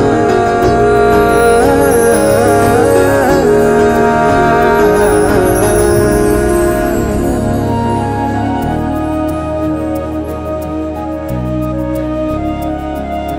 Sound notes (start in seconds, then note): none